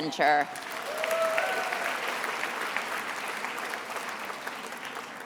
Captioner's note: attendees applauding